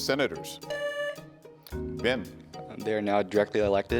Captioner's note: tone sounds